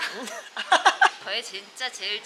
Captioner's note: Laughing